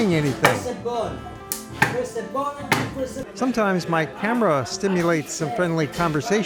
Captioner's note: cards bang on table